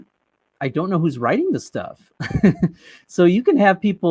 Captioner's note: chuckles